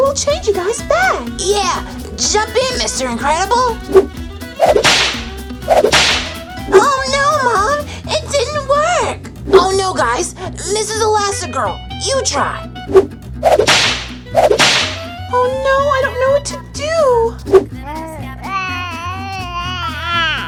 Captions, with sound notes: will change you guys back. - Yeah! Jump in, Mr. Incredible. (door whips) - Oh no, Mom! It didn't work! - Oh no, guys! Mrs. Elastigirl, you try! (door whips) - Oh no, I don't know what to do! (coos)